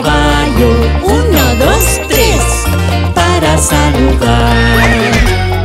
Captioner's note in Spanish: Relincho